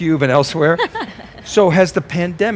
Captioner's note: laughing